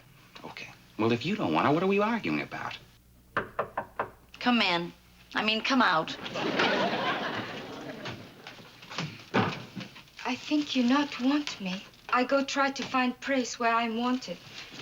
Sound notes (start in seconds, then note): 3.3 knocking on door